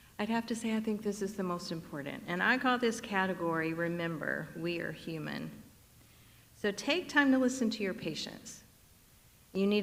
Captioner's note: none